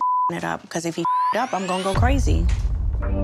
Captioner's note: beep